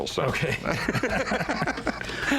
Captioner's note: both laugh